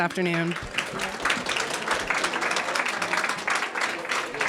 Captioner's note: audience applauding